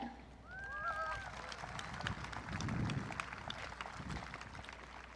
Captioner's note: audience cheering